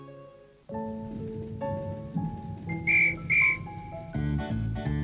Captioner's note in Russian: свист